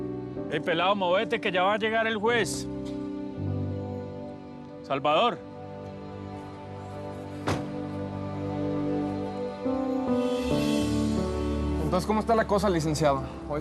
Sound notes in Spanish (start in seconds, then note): 7.4 sonido al cerrar la puerta